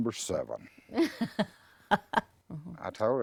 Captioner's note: chuckles